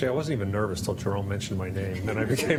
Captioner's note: laughter